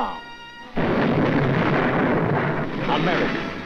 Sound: artillery exploding

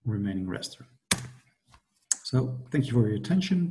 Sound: clicks

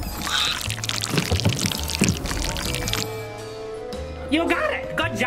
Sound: spaghetti swishes

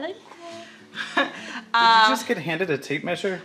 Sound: laughs

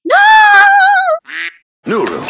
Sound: quack

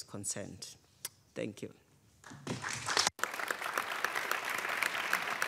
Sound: audience applauding

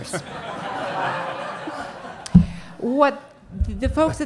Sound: audience laughing

